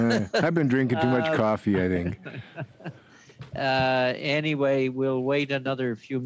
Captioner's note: laughter